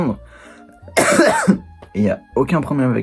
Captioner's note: coughs